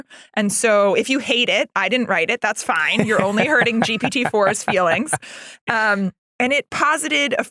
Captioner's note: laugh